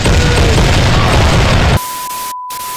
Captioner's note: cannons fired